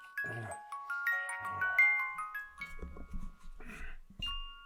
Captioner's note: Jacob grunting